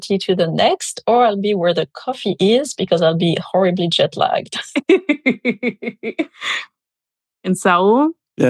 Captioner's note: laughter